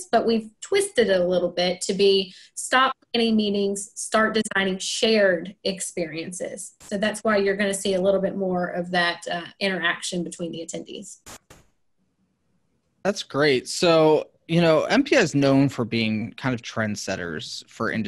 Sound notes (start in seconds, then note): none